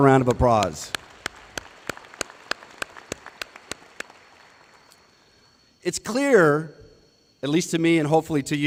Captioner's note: applause